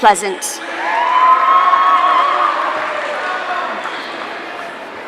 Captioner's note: audience cheering